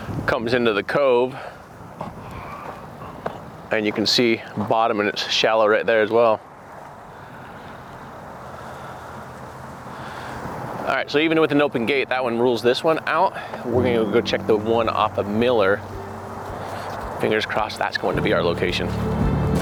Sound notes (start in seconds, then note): 7.5 gentle music continues; 7.5 wind rustling